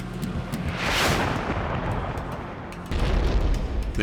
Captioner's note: explosions